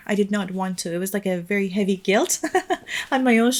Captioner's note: chuckles